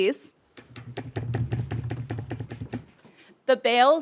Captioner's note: desk-tapping drum roll